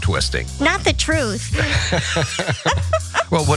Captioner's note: laugh